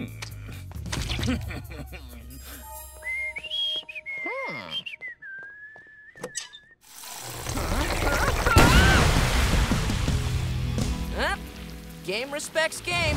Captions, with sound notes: [laughing] [whistling] Hmm. [whistling] [groaning] Well, game respects game.